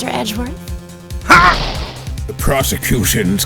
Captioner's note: frustrated grunt